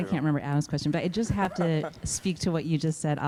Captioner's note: laughs